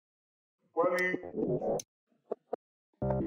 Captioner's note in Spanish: voz distorsionada